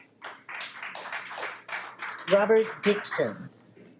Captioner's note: audience clapping